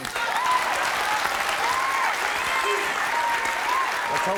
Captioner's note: clapping